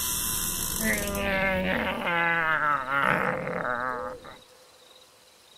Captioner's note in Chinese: 怪叫